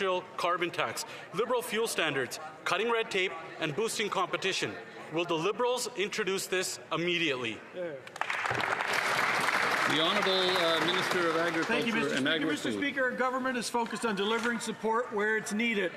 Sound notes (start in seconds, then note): 13.8 some Applause